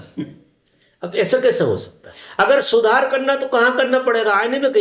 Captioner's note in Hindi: गला साफ़ करने की आवाज़